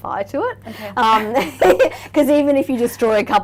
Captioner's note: laughing